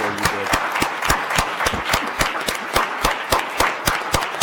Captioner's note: applauding